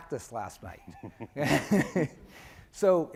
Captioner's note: laughing